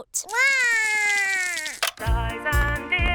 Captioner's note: cries